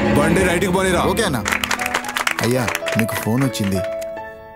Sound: mobile ringing

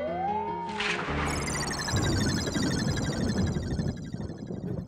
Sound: thunder rumbling

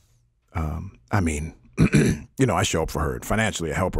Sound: clearing throat

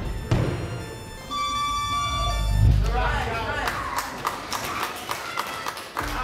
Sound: whistle blows; clapping

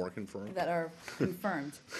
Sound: laughter

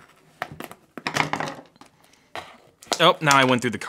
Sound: plastic ripping; screwdriver thudding

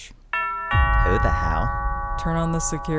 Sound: doorbell rings

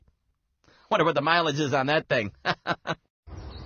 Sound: laughs

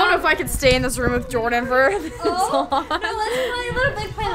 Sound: laughs

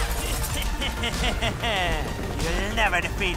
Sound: evil laughter

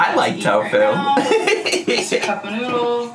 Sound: giggling

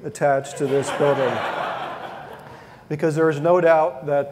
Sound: audience laughing

